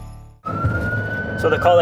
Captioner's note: siren